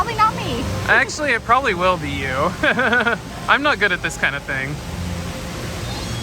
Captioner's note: laughs